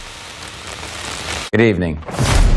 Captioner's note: static